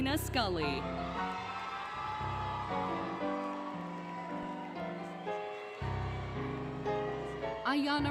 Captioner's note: applause, Cheering, Music